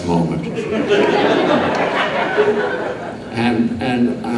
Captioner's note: audience laughing